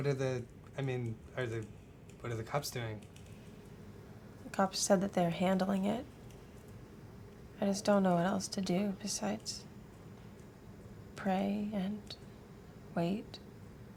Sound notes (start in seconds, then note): none